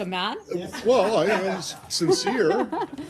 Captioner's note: laughter